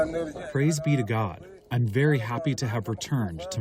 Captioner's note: through translator